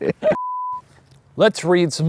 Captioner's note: everyone laughing; beep